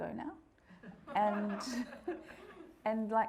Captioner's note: audience laughing